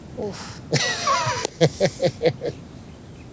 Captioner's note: laughs